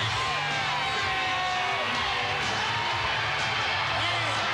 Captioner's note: crowd cheering